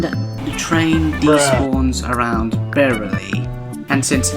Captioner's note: bruh of disappointment